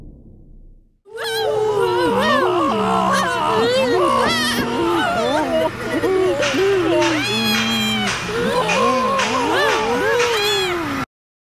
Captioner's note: Ruby, Spongy and Balloony screaming; mechanic clanging sounds